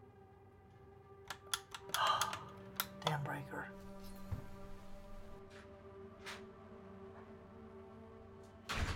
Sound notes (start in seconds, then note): 1.8 sighs; 6.3 door opens and closes